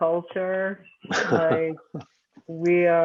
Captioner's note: laughs